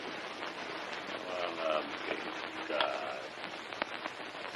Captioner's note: quietly cursing